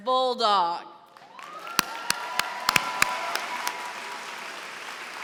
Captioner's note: cheering and applause